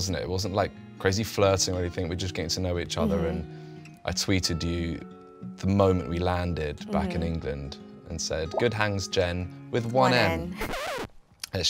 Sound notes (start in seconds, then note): 8.5 tweet bloops; 10.4 record scratching